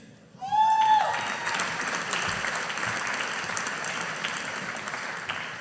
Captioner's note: audience applauding